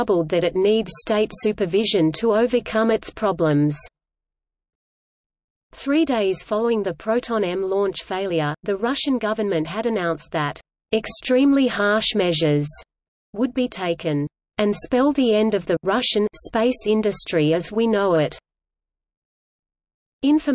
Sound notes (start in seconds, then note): 15.6 Russian